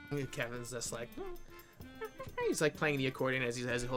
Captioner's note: monkey noises